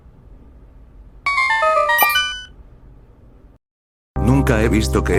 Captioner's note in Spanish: efecto de sonido de zelda ✨⚔️